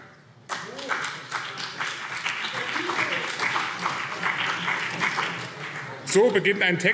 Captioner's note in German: Beifall BÜNDNIS 90/DIE GRÜNEN und CDU